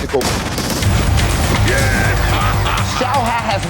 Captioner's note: laughs